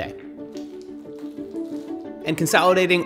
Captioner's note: gentle music; water rustling